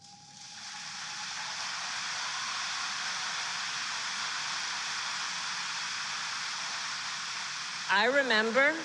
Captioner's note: applause